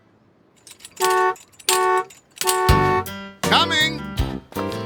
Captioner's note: horn honking